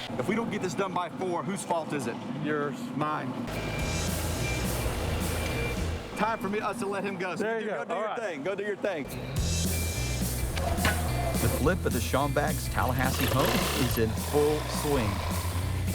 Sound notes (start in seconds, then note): 3.2 tractor engine roaring; 9.0 upbeat music; 10.5 metals clicking